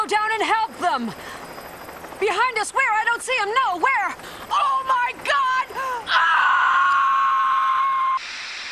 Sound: yelling/screaming; sound effect of static

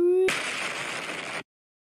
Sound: fucking Explosion

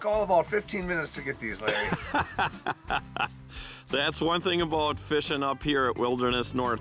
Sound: laughing

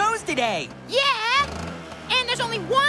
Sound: revs Engine

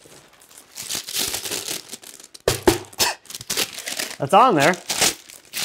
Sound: paper rustles

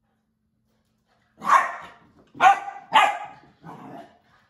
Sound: Berne barking

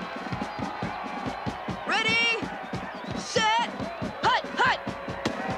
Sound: crowd chattering

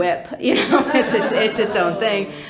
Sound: laughing

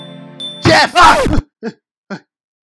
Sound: screams

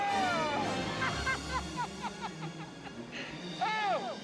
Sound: laughing

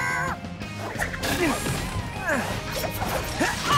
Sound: grunting

